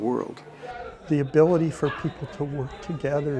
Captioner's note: crowd chatter